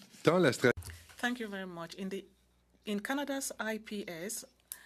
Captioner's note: speaking French